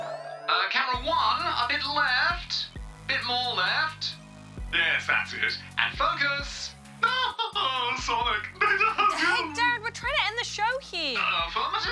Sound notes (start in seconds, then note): 8.6 laughter